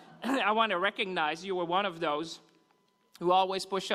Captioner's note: laughter